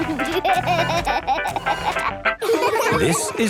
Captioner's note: upbeat music; giggling